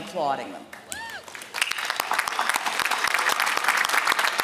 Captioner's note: applause